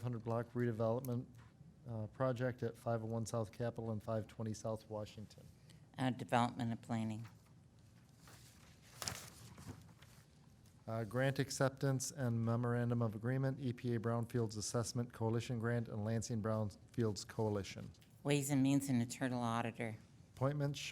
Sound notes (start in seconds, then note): 7.9 papers rustling